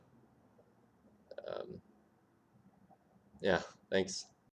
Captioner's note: awkward pause